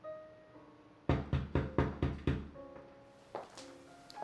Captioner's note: door knocking